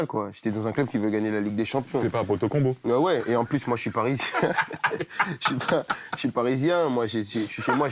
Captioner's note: rires